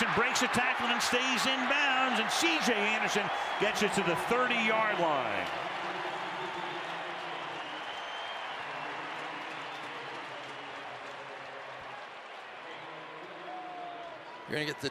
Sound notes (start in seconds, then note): 6.4 crowd cheering